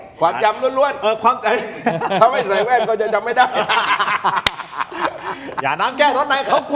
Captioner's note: laughs